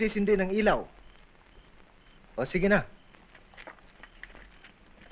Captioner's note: geckos chirping